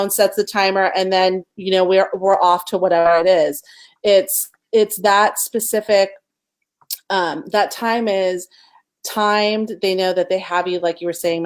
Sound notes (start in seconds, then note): none